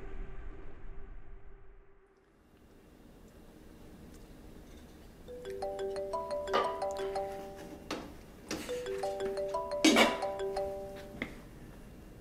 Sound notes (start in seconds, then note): 5.3 phone ringing